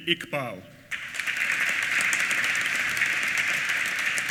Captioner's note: applause